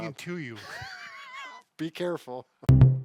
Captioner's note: laughing